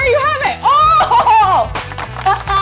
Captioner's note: cheers; laughs